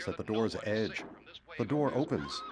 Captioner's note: screams